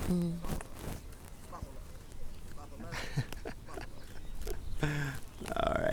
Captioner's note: laughing